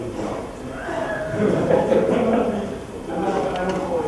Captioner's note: laughter